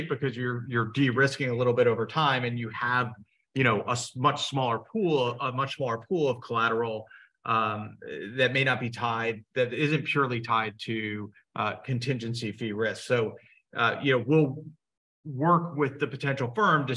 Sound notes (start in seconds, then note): none